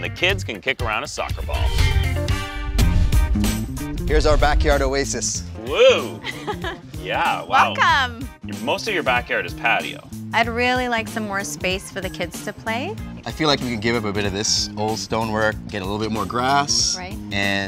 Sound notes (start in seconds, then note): 2.3 upbeat music; 6.2 laughs